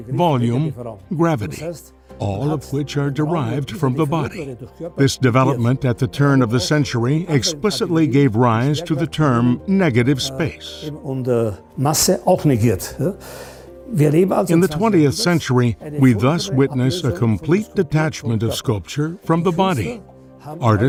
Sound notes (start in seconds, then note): 11.1 non-english speech